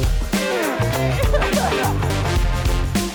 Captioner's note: all laughing; upbeat music continues, concludes